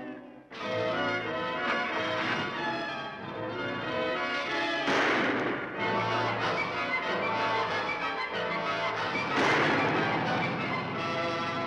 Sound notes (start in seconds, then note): 0.2 dramatic music; 4.8 gun fires; 5.7 thrilling music; 9.2 gun fires; 11.4 thrilling music